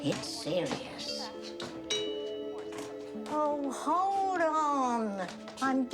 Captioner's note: doorbell rings